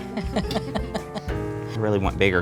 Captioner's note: laughs